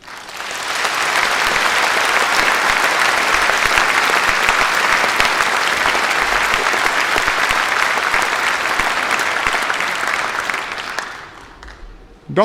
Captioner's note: applause